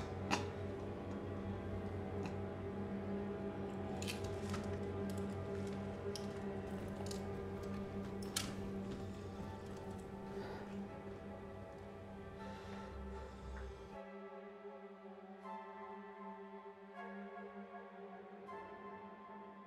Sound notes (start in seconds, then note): 4.4 suspenseful horror music; 7.8 footsteps; 15.9 suspenseful horror music continues